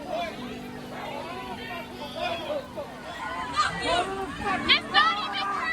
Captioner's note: protesters shout off-camera